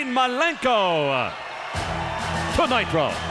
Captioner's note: crowd cheering